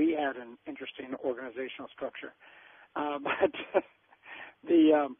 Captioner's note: chuckles